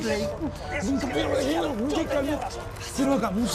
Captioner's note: indistinct chatter